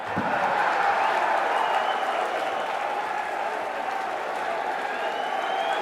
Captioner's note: crowd cheering; crowd chatter